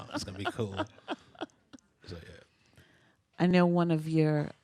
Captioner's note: continues laughing